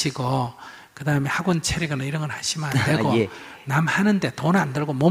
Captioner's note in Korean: 질문자 웃음